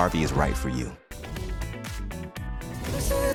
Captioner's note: upbeat music; whooshing